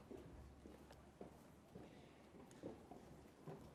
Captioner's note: none